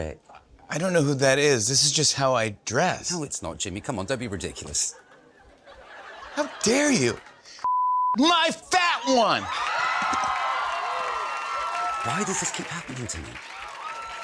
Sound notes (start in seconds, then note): 8.8 cheers and applause